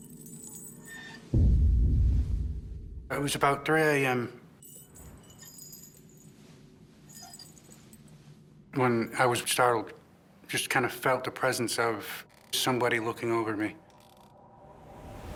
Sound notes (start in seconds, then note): 0.1 creaking; 4.6 creaking & jangling